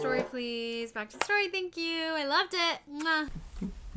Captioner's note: mwah